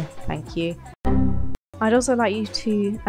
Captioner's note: windows error